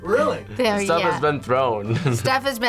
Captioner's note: laughs